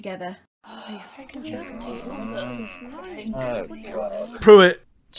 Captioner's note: The Quidditch team grumbles at Frank